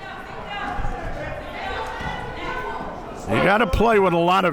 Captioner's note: crowd members shouting